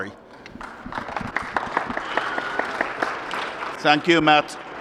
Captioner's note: applause